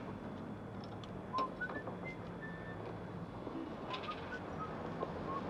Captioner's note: Robert whistling